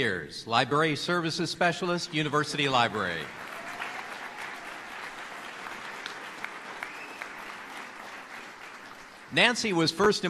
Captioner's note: applause